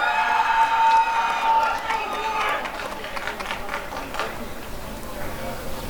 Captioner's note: applause and cheering